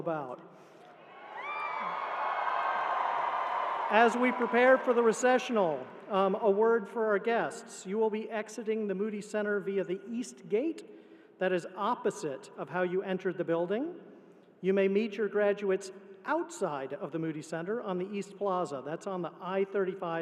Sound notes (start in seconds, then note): 4.8 cheering